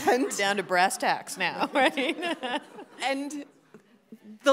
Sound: laughs

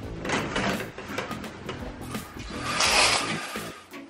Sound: blinds open

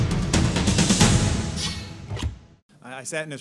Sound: sound effects

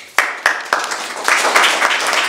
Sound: applause

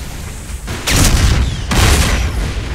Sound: pew pew

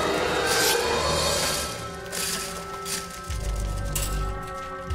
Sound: ax scrapes metal

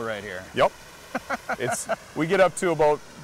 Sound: laughing

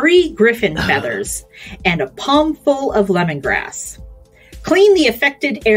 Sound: coughs

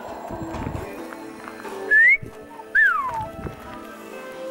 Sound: whistles

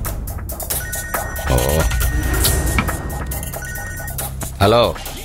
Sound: phone rings

